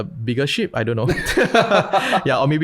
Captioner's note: laughter